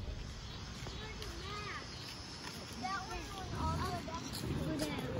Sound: crickets and cicadas

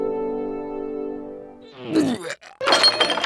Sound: vomit

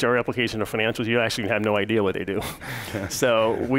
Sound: all laugh lightly

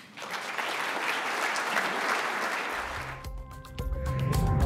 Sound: applause

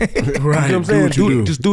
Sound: laughs

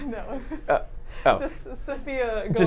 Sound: chuckles

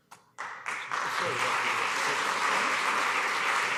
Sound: applause

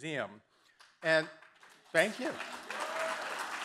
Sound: audience applauding

